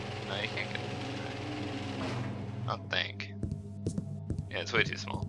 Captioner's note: whirring stops